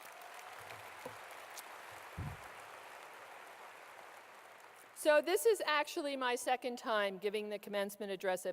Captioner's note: clapping